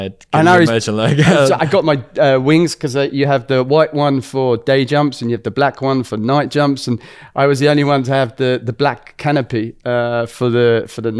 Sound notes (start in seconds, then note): 1.0 laughs